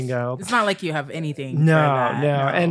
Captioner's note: sarcastically